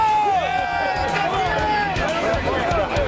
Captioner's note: crowd cheers